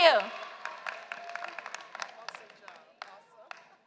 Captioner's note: applause